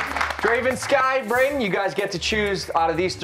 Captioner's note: cheers and applause